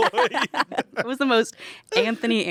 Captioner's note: everyone laughs